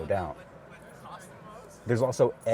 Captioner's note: crowd chattering indistinctly